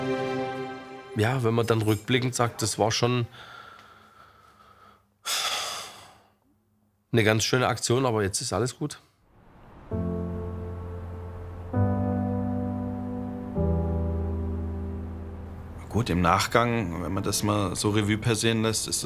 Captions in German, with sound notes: Ja, wenn man dann rückblickend sagt, das war schon ... (Er seufzt.) 'ne ganz schöne Aktion, aber jetzt ist alles gut. (Emotionale Musik) Gut, im Nachgang, wenn man das mal so Revue passieren lässt,